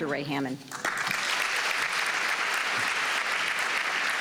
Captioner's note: applause